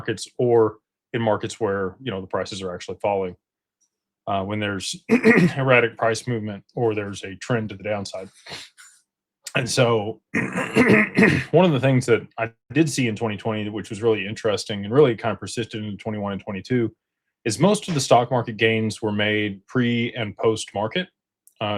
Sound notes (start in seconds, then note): 5.0 clears throat; 10.3 clears throat and cough